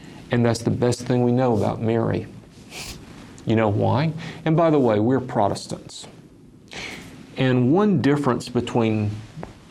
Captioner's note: sniffs